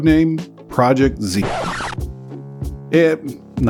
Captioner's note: record scratch!